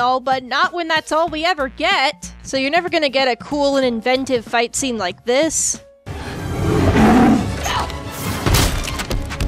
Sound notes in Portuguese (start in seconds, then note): 6.2 rugido